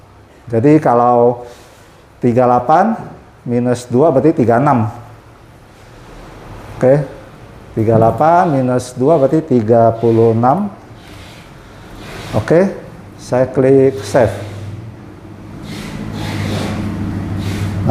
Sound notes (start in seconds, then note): 6.0 keyboard sound; 15.6 printer machine noise